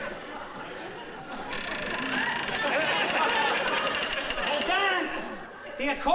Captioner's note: creaking